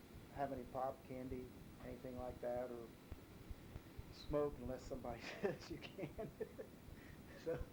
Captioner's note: chuckles